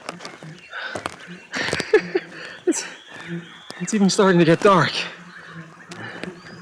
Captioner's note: laughs